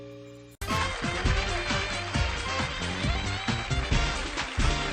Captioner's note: applause, theme music